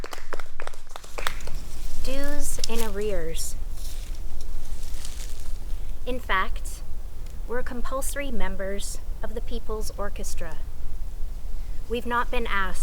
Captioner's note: crow caws in distance